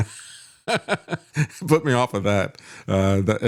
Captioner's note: laughs